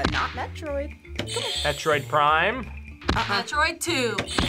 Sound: buzzer rings

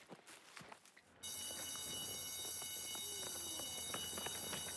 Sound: bell ringing

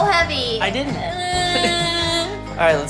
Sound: cries

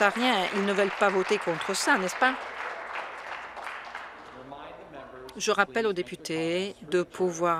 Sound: some Applause

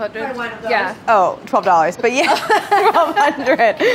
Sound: both laughing

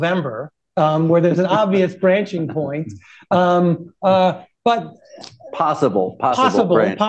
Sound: laughter; laughs

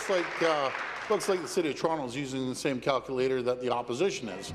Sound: applause

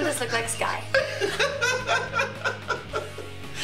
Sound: laughter

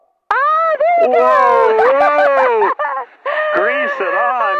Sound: both cheering

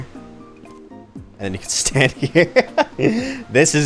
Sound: chuckling

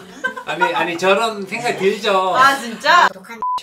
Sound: Two sisters laughing to death due to Dr. Choo

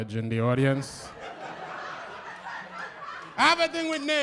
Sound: laughter

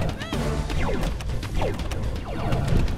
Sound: explosions and phaser fire

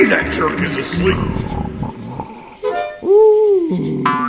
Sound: muffled snoring

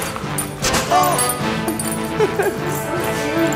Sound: laughter

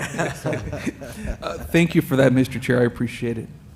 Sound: laughter

